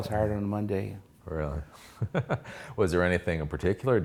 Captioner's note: laughs